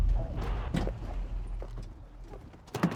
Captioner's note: car door opens